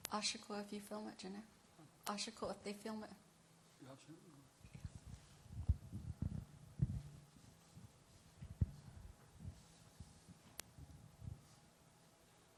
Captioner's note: speaking in native language